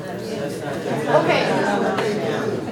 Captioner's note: group uproars